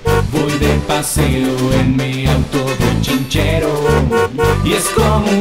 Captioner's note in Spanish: Sonido de Bocina; Sonido de Bocina